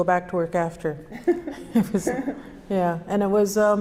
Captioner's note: both laugh